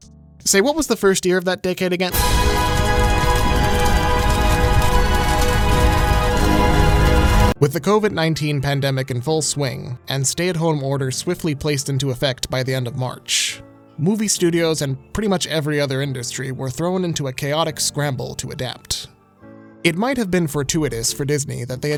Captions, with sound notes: Say, what was the first year of that decade, again? [ominous music] [fire crackling] With the COVID-19 pandemic in full swing, and stay-at-home orders swiftly placed into effect by the end of March, movie studios and pretty much every other industry were thrown into a chaotic scramble to adapt. It might have been fortuitous for Disney that they